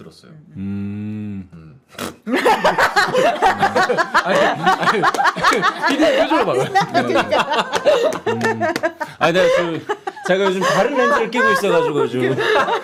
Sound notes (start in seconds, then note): 1.8 laughing; 2.2 sudden laughter; 7.1 laughing